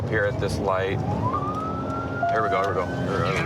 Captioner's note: sirens